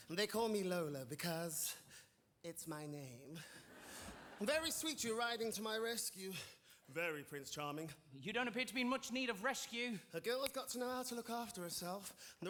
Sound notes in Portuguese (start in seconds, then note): 3.7 audience laughing